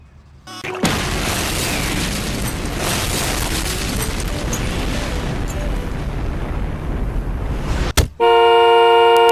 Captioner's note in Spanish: exploción